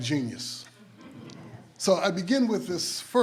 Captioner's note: some audience members laugh